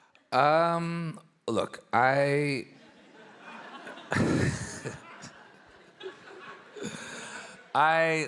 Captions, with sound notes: - Look [laughs] I love New York,